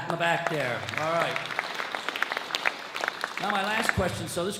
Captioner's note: audience claps